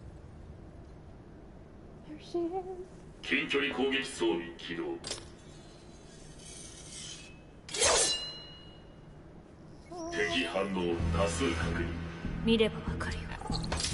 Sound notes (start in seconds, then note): 9.5 singsong